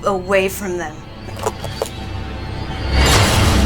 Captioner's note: bones cracking; dramatic music